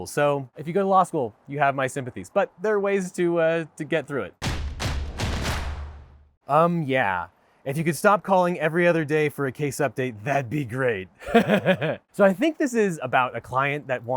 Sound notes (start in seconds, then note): 4.4 drums beat; 11.2 laughs